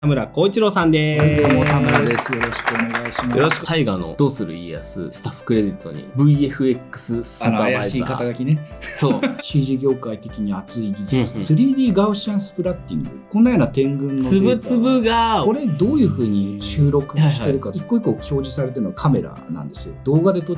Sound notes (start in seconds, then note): 8.9 laughs